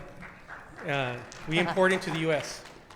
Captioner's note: audience clapping